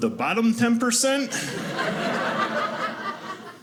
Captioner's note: audience laughing